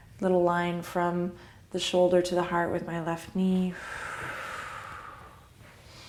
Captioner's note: exhale; deep exhale; deep inhale